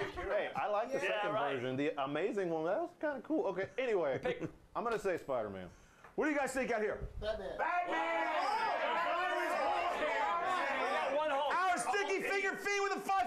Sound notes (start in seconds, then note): 7.6 audience shouts answers